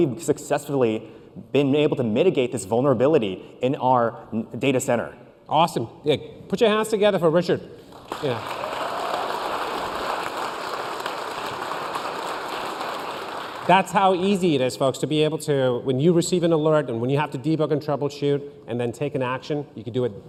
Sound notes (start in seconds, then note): 6.3 applause